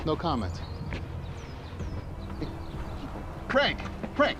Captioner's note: birds chirping